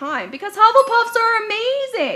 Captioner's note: dings